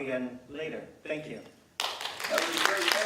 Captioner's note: applause